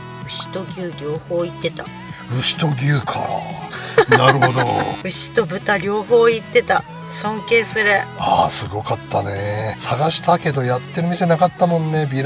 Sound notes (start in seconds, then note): 3.5 laughs